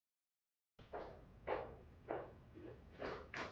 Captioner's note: footsteps